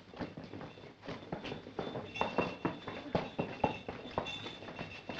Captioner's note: bells ringing